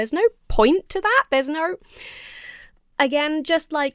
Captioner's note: inhales sharply